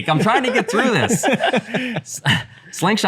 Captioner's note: laughter